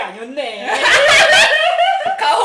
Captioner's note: laughing